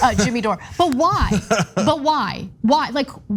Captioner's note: laugh